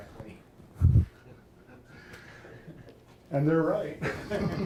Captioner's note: audience laughing; laughing